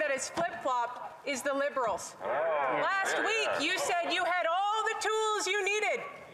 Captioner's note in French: voix de l'interprète